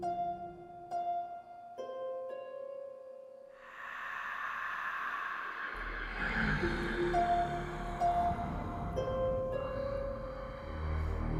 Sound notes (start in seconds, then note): 0.1 haunting piano music; 3.6 sinister breathing